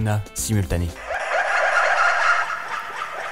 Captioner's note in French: rires d'Hanouna en boucle